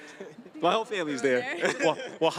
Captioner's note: laughing